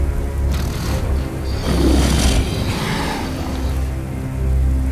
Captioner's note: snarling